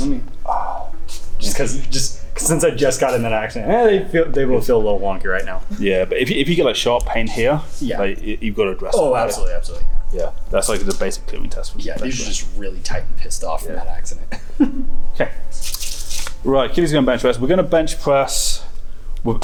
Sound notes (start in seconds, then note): 14.2 chuckles